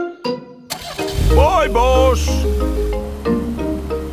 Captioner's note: car engine starts